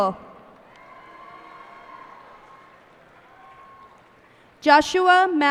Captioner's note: cheers and applause